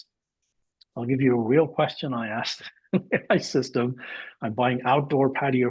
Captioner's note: laughs